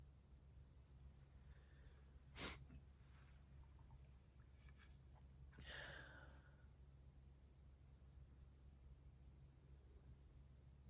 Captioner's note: sniffs